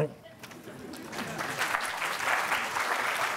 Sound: applause

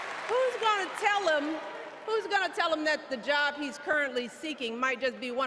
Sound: applause

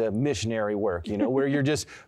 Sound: laughter

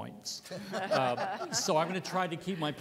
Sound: laughter

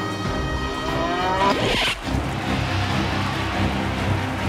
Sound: cow mooing; thrilling music

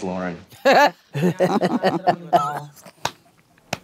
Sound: laughs

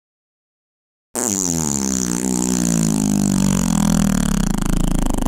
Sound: fart noise

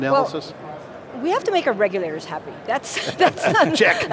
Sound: laughing

